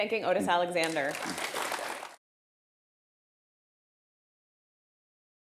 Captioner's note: audience clapping